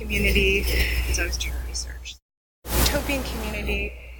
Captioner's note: mic cuts out